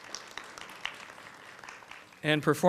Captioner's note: applause